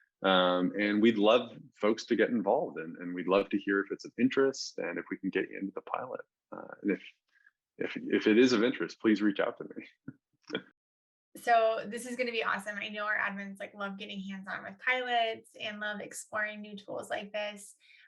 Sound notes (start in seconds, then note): 10.2 chuckles